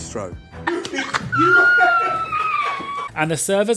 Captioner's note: laughs